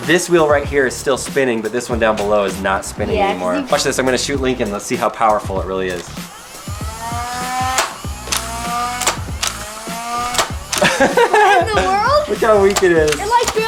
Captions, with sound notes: this wheel right here is still spinning, but this one down below is not spinning anymore. Watch this, I'm going to shoot Lincoln, let's see how powerful it really is. (gun noises) (laughter) - What in the world? - Look how weak it is.